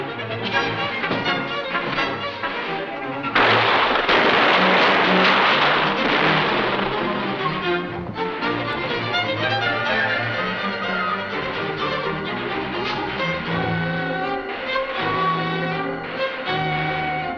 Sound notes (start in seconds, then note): 3.3 guns firing; 7.3 upbeat dramatic music